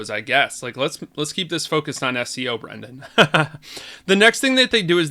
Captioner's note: laughs